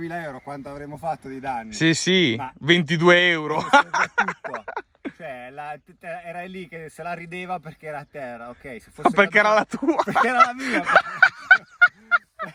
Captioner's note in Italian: Risate